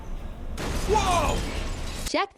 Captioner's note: explosion